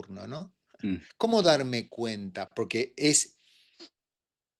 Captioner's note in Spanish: carraspeo